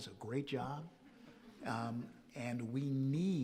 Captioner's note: audience chuckling softly